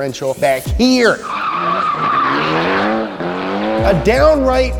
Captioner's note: car screeching and skidding